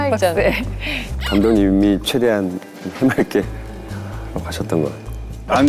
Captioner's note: hehe